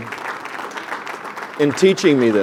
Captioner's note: applause